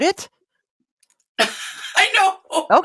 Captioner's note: laughter